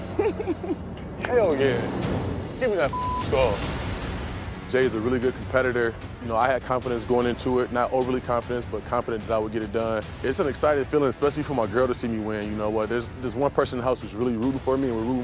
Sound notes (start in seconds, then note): 0.0 laughing; 2.8 beep